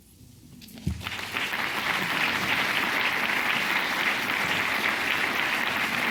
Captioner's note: clapping